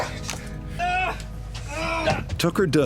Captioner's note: man grunting